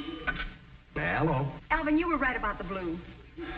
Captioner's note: telephone ringing